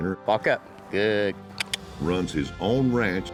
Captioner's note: clicking